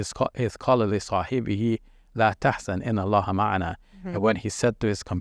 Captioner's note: speaking foreign language